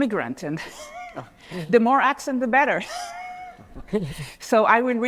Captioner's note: laughs